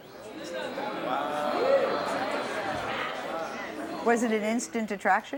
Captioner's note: crowd chattering